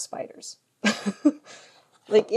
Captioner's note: chuckles